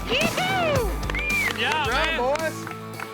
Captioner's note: clapping